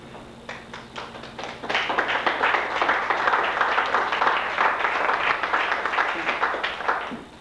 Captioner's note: applause